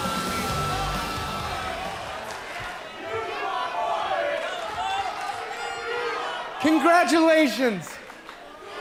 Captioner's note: crowd chatter